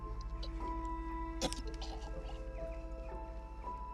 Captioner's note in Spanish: náuseas